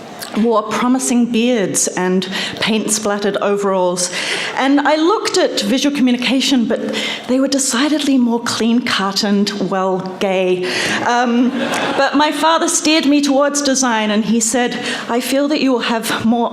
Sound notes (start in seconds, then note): 11.5 laughter